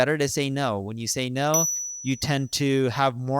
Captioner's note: bell dinging